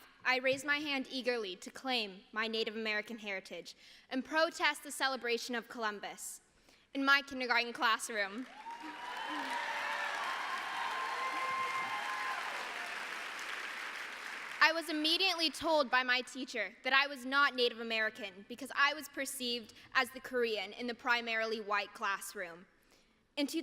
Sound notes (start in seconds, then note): 8.4 applause